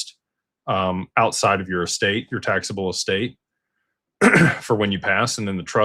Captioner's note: clears throat